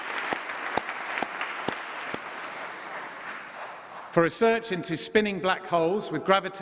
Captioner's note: applause